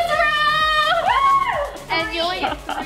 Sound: shouting

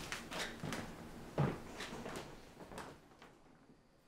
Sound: footsteps approaching

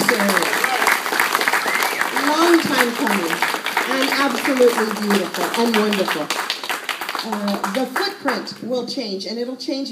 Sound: applause

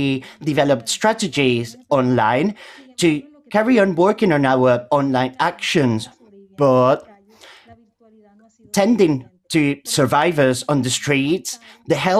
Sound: speaking Spanish

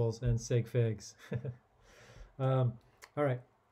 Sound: chuckling

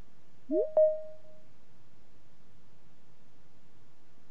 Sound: digital chime

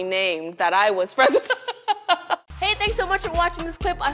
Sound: both laugh

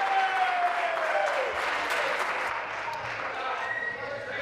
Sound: applause; cheers

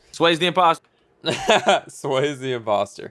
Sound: laughs

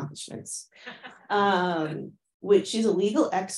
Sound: laughing

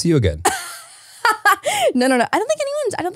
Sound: laughs

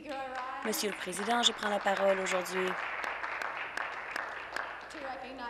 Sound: some Applause

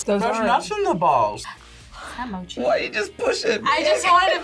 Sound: gasps

